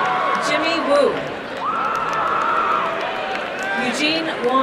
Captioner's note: applause and cheering